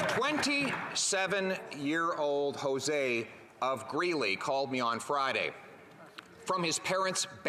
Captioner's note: applause